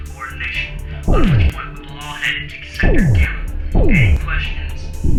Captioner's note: training pistol booming